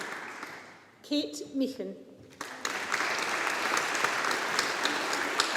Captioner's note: audience applauding